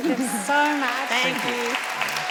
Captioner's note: applause